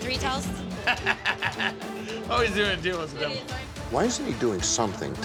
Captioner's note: laughs